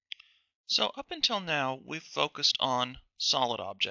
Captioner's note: voiceover